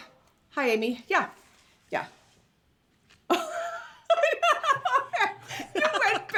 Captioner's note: laughs